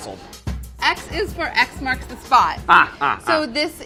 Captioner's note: laughing